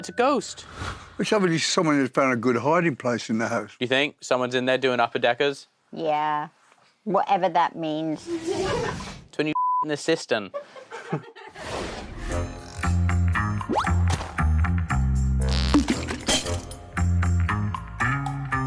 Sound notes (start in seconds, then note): 10.5 crowd laughing; 15.4 farts